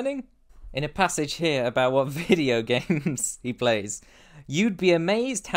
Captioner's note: laughs